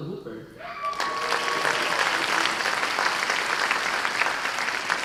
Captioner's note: cheers and applause